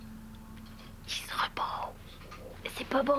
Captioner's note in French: chuchotant